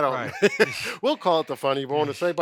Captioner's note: laughing